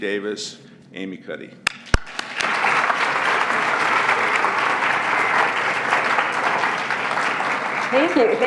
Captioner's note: applause